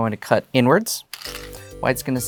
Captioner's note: stones rattling; new song begins